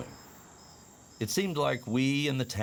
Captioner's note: insects chirping